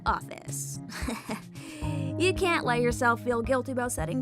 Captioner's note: chuckles